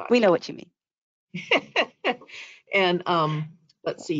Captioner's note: laughs